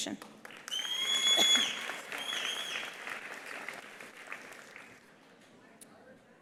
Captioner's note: attendees applauding; attendee whistling